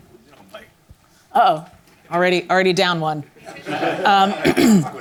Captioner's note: audience laughs